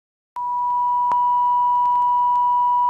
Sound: beep

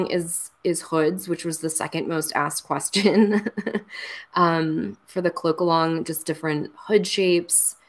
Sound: laughs

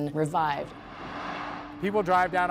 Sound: traffic noise

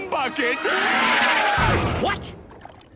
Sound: screaming

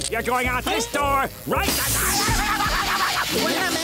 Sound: screaming

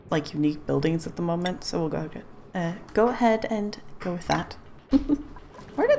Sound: laughs

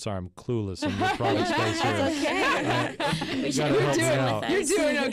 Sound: group laughs

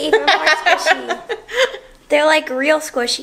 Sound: woman laughing

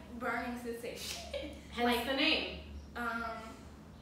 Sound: laugh

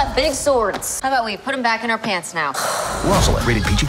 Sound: sighs

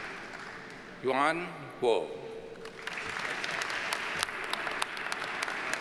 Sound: audience applauds

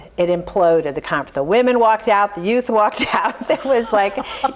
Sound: laughs

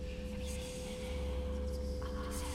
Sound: creepy whispering

